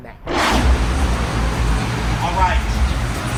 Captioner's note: vehicle engine revs